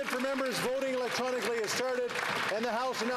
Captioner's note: cheering and Applause